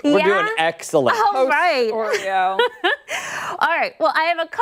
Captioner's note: laughter